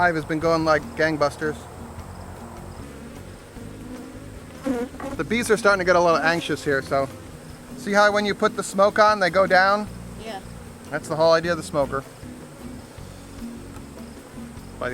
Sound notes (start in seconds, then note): 3.3 bees buzzing